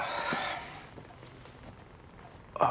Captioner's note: sighing